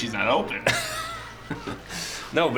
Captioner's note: laughs